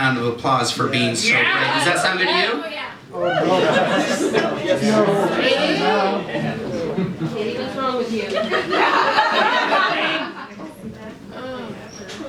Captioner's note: laughter